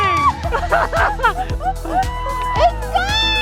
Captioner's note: laughing